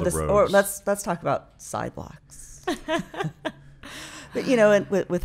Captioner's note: laughing